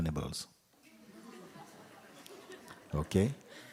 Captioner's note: laughter